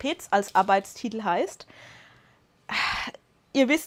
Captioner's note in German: seufzt; schnappt nach Luft